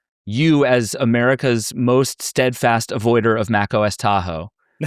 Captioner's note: none